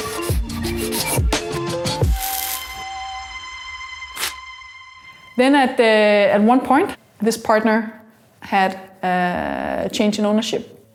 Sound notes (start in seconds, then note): 0.7 pen scribbling; 4.1 paper tearing